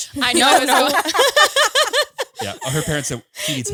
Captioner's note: all laughing